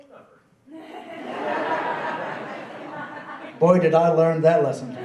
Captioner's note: laughing